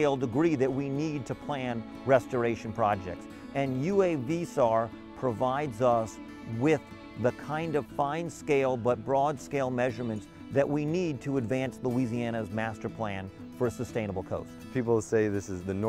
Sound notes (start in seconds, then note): none